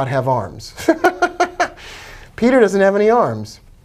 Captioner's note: laughs